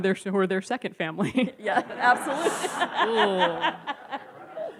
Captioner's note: audience laughs